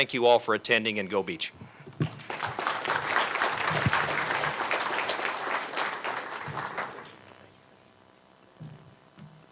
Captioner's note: applause